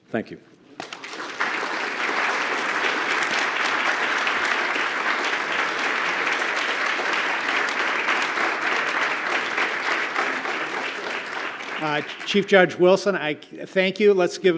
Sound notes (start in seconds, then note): 4.4 applause